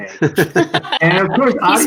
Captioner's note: chuckling